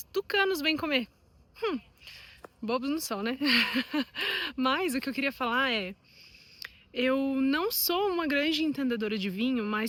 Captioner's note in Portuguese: risadas